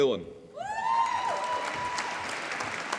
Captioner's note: applause